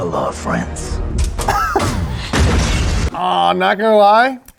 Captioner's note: bomb explodes